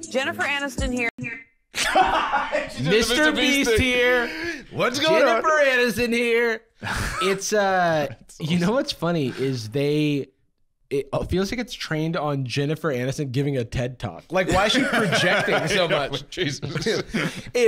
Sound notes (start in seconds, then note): 1.8 laughing